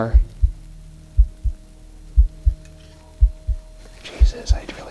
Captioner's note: heart continues throbbing